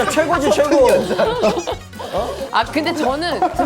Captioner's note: haha